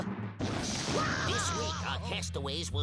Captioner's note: Daffy screaming